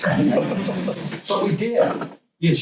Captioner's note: students laugh